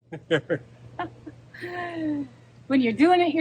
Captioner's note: laughs